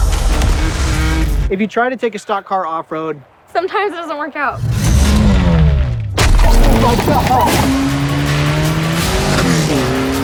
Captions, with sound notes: - If you try to take a stock car off road. - Sometimes it doesn't work out. (engine roaring) (cheering & clapping)